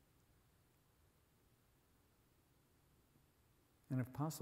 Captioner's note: none